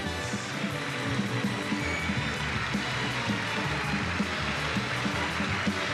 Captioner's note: audience cheers and applauds